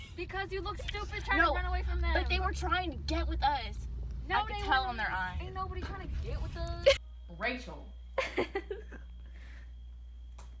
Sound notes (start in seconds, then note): 6.7 laughs